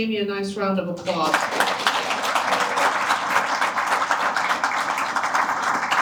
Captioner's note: applause